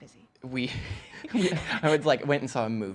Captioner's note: laughter